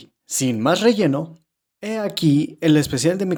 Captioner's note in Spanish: Silencio